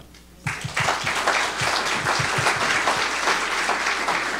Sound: audience applauding

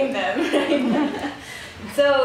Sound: audience laughs

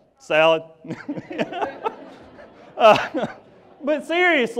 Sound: laughs

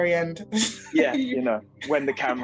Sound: laughing

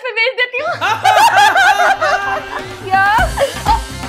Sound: laughing

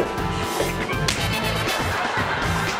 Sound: slap

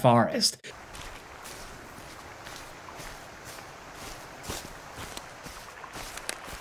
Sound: leaves crunching; water sloshing

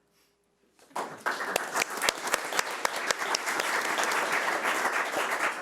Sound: audience clapping

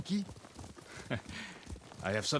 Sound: laugh

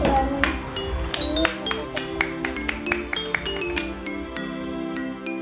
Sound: claps sound

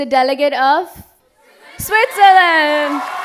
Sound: crowd

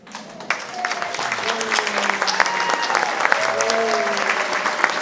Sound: audience applauding

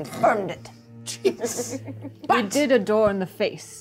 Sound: co-host laughs

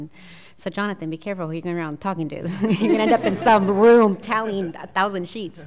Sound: laughter

